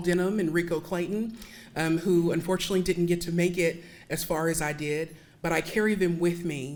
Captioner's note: none